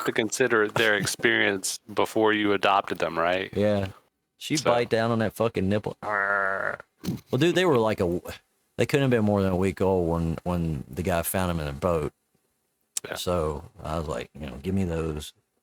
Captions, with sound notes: to consider their experience before you adopted them, right? - Yeah. She's right down on that fucking nipple. (growls) Well, dude, they were like a, they couldn't have been more than a week old when the guy found them in a boat. So I was like, you know, give me those.